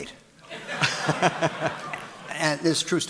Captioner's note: audience laughing